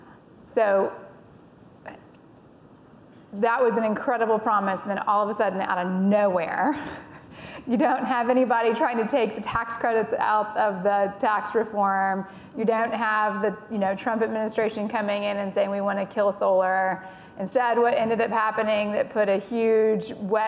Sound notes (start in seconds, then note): 7.4 laughing